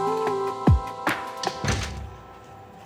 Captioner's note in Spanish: Sonido al cerrar la puerta